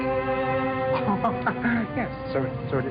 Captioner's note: laughs nervously